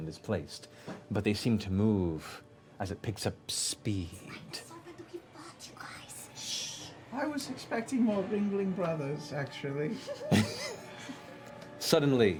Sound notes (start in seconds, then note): 4.4 whispers; 9.9 laughter